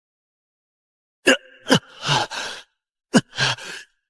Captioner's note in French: Tousse